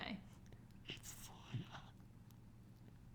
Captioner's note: whispers